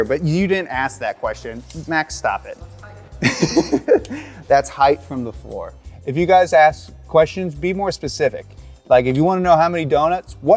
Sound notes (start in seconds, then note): 3.2 laughing